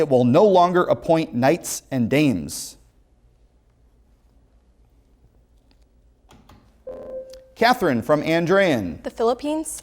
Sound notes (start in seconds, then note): 6.9 ringing